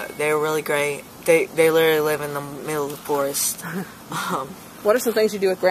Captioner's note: laugh